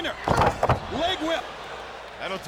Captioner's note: bodies thud